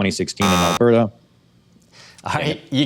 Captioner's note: buzzer